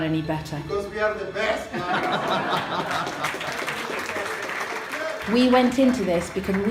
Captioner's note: applause